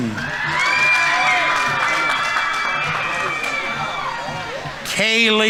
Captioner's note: audience members cheering; audience applauding